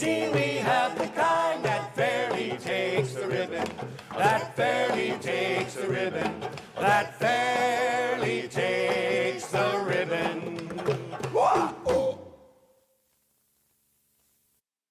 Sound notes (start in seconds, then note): 11.4 wha ee ooh!